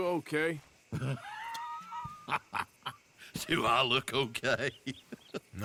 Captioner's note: laughs